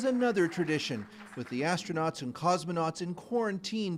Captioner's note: applause